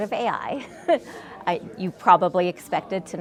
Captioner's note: chuckles